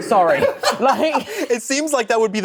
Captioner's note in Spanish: risas